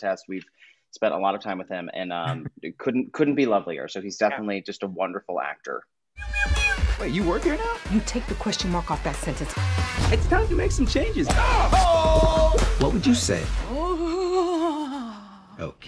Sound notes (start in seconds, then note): 9.4 upbeat music; 11.7 hollering; 13.6 moans